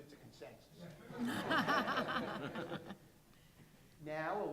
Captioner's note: laughter